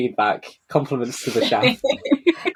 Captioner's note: laughing